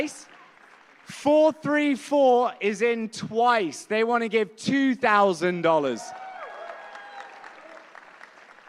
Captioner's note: applause